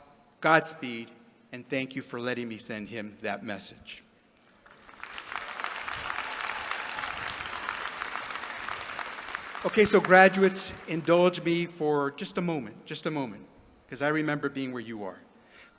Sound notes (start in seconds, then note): 4.4 applause